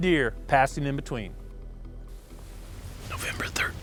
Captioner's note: whispering